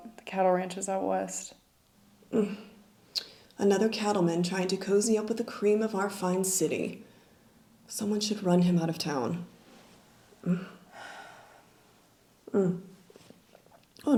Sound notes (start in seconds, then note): 2.3 sighs; 10.4 Nellie sighs